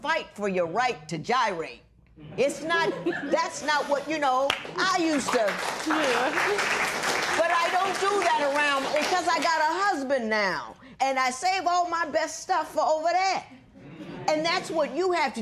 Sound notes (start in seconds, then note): 8.4 applause